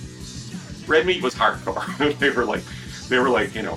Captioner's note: laughs